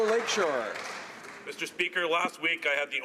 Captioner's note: some Applause